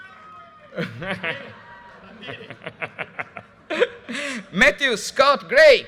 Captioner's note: audience cheers and applause; announcer laughing